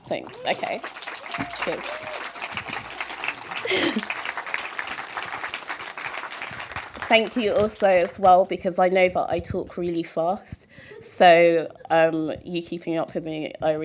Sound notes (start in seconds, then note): 1.1 applause; 3.6 chuckle